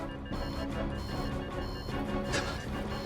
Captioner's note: suspenseful music; timer beeping